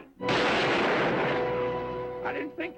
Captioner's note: gunshot fires